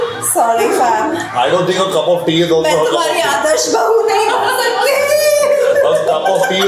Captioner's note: dramatically